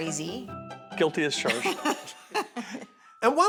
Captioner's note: laughs